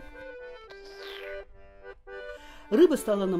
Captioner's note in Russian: прихлебывает чай